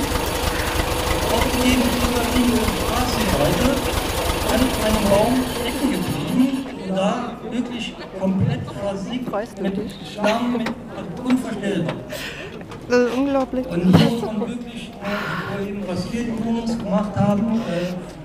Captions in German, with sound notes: (Motortuckern, leise Durchsage im Hintergrund) Das ist unglaublich.